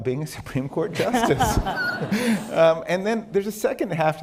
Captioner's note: laughter